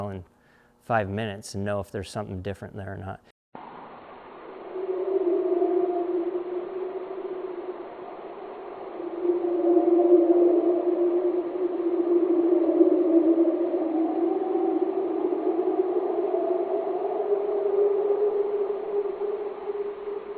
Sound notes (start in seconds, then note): 3.5 creature howling; 3.5 ominous music